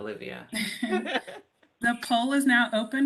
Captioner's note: laughter